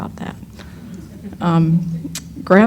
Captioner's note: laughter